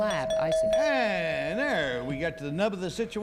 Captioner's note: ding